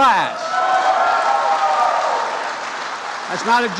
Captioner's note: applause